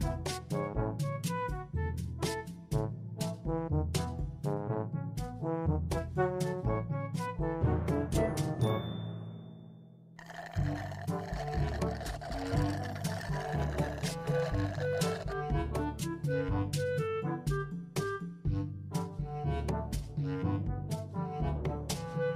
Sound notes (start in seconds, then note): 10.2 straw sucking; 13.2 both straws sucking